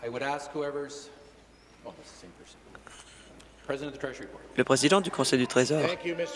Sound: woman shouting

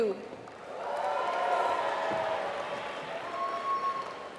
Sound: applause

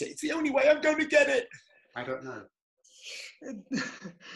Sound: laughter

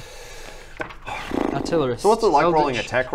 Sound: sigh

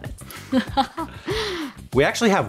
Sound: laughs

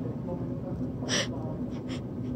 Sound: gasp

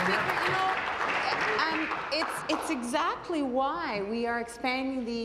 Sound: applause

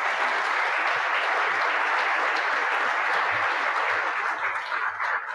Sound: audience clapping

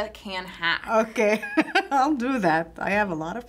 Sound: laughs

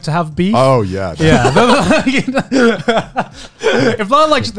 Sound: everyone laughs

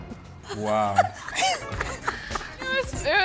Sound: laughing

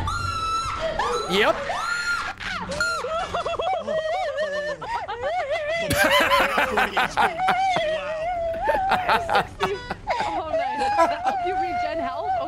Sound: screams; laughs

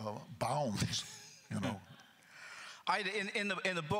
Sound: chuckles

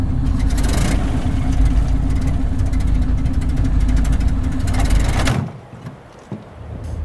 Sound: engine grinding; engine puttering; eerie music

